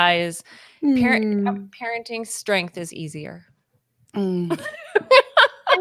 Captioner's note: laughs